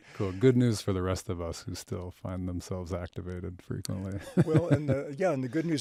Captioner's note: chuckles